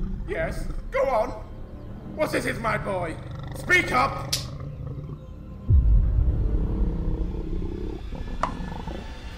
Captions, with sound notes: -KING- Yes, go on. What is it, my boy? Speak up! (POP!)